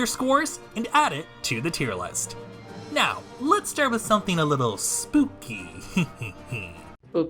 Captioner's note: unnecessary creepy giggling